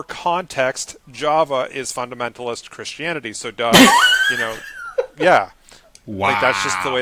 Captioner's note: laughing